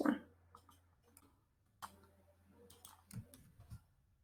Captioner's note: mouse clicking